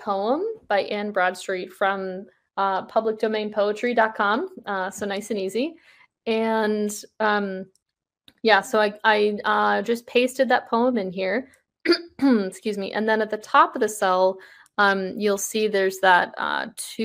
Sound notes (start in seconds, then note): 11.9 clears throat